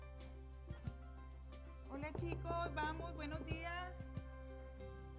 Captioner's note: foreign audio